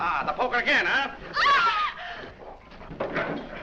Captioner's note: screams